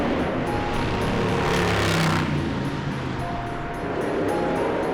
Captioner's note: motorcycle engine